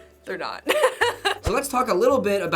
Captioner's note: laughing